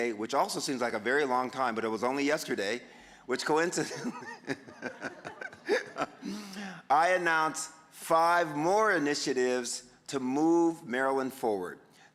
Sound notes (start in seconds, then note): 3.8 audience giggling; 3.8 giggling